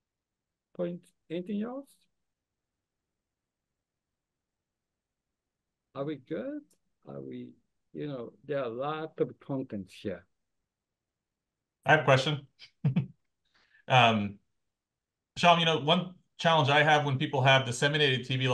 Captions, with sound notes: points, anything else? Are we good? There are a lot of contents here. - I have a question. (chuckles) Shom, one challenge I have when people have disseminated TB